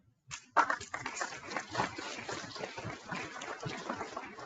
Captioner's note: people clapping